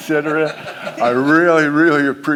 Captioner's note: laugh